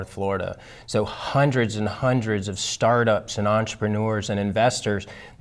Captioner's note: none